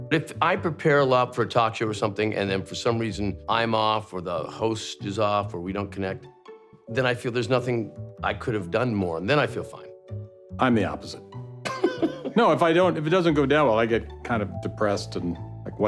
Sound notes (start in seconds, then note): 11.6 laughter